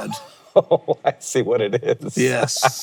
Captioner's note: laughing